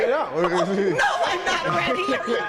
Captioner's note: laughing